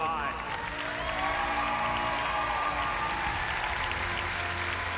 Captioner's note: cheers and applauses